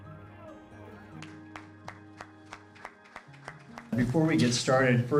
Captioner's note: applause